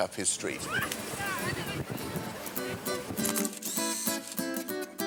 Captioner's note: camera shutter clicking